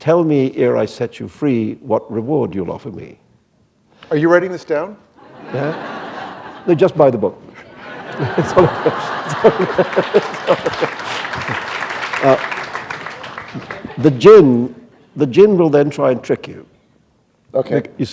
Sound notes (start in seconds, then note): 5.2 laughter; 9.2 applause